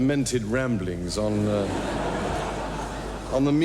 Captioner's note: audience laughing